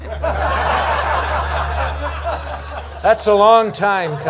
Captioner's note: laughter